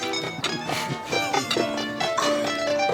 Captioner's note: Ender laughs